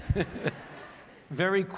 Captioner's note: audience laughs